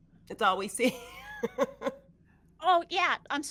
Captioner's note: laughs